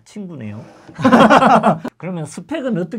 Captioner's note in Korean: 웃음